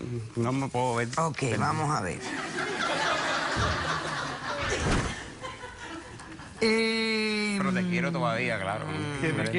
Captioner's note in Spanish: Risas